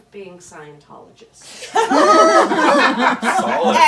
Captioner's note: laughter